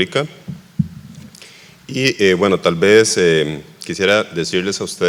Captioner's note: speaking foreign language